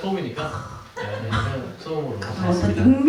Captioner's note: exclamation, laughter